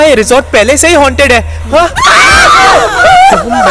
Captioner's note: Everyone screaming